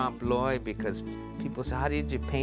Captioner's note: speaking spanish